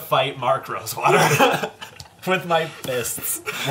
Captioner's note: all laugh